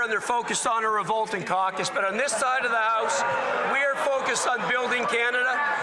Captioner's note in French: voix de l'interprète